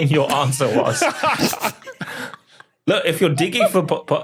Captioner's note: group laughing